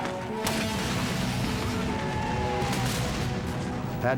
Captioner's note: shouting